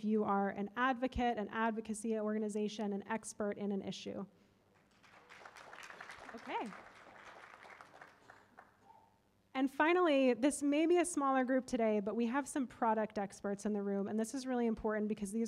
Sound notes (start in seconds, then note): 4.7 applause